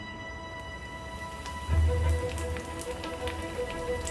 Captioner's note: oil sizzling